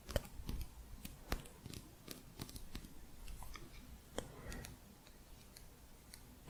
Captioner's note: quiet tapping